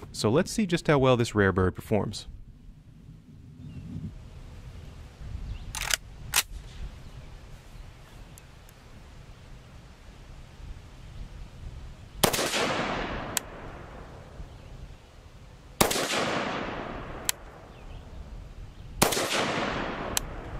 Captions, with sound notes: So let's see just how well this rare bird performs. (gun cocks) (gun firing)